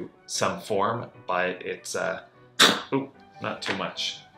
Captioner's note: puppy coughs